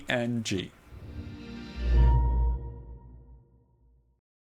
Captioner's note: bright music; graphic swooshes